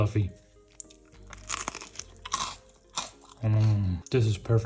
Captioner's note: bread crunching